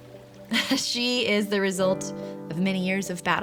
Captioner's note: chuckles